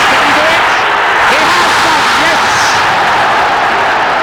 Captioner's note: crowd roaring